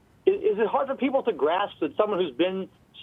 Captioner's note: voiceover